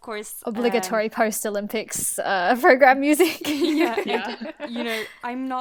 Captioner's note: hosts laugh